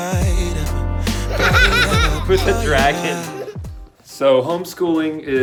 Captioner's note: laughs